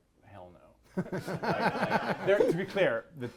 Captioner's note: all laughing